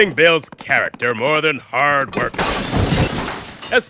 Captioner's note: objects crash and shatter